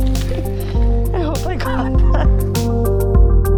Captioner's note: laughing